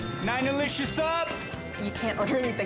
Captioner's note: bell dings